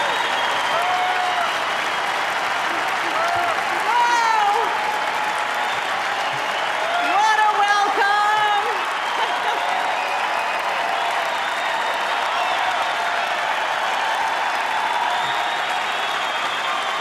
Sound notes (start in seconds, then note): 11.6 applause